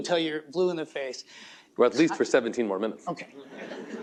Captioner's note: laughter